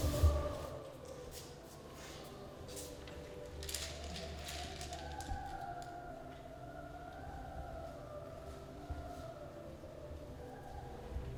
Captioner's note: pencils Shuffling